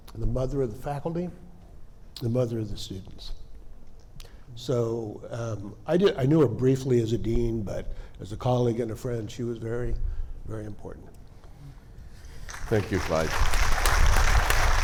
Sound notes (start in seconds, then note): 12.2 audience applauding